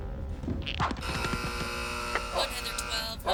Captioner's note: alarm buzzing